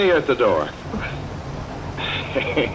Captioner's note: stifles a sob; laughs